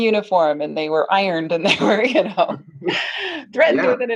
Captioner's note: laughing